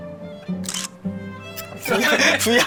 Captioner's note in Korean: 찰칵